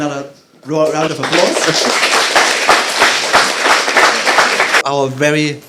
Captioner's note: applauding